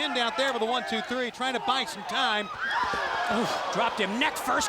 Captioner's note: crowd screams